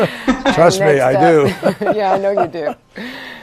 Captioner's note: laughter